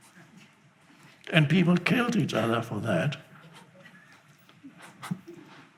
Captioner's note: chuckles